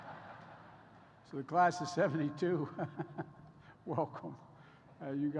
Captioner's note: laughter; laughs